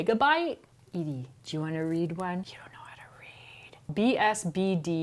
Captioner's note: whispers